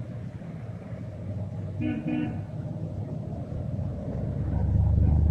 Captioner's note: engine rumbling; horn honks